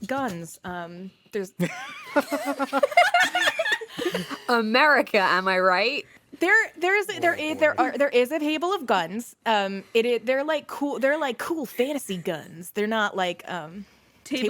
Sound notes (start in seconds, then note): 1.6 laughter